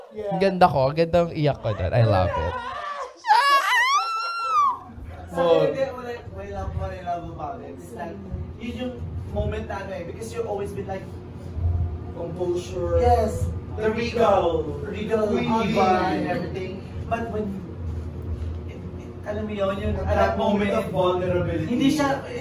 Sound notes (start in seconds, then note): 3.2 high-pitched screeching